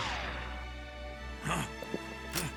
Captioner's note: gasps